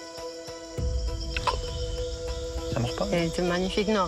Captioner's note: croaking